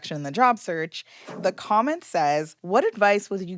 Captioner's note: graphic whooshing